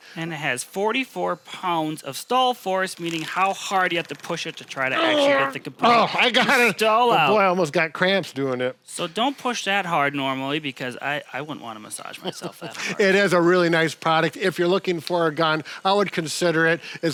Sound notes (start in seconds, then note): 4.9 grunting; 12.2 laughing